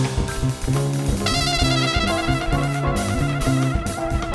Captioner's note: audience applauding